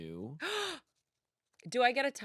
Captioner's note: gasps